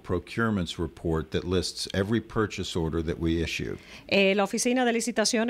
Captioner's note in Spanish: Hablando ingl\s